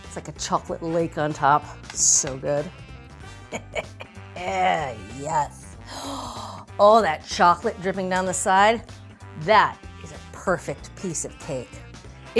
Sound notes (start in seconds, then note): 3.4 laughs; 5.7 gasps